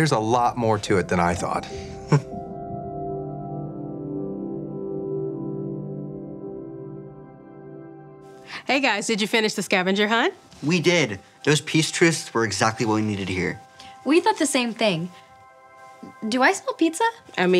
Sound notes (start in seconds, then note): 2.0 chuckles